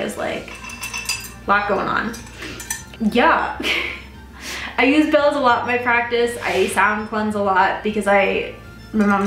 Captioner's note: clinking